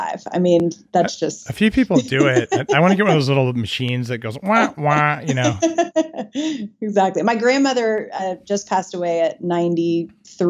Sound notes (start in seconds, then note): 5.8 laughing